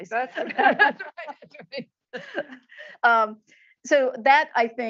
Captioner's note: laughs